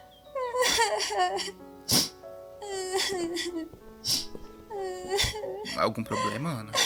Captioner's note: crying sound